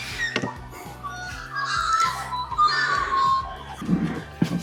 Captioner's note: magpies calling melodiously ... and loudly